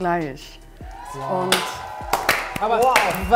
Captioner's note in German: Jubel